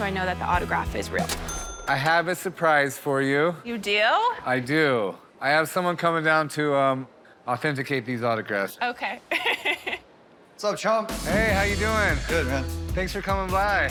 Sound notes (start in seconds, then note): 9.3 laughs